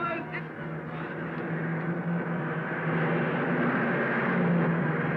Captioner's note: car revving